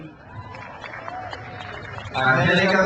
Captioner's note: crowd cheers